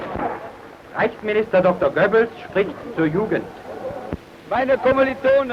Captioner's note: speaking foreign language